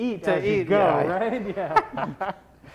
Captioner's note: laughing